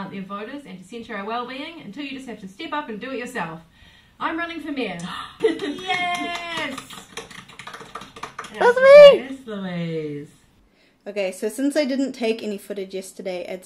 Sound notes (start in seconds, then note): 5.4 clapping; 6.4 gasps; 8.5 yaaaay